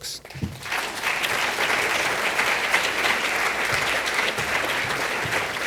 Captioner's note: applause